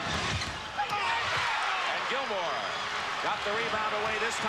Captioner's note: crowd cheers